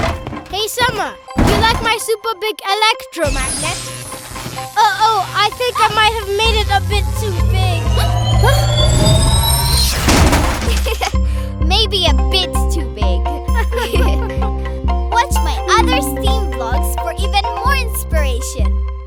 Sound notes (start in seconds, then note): 7.8 gasps; 10.6 chuckling; 13.2 laughing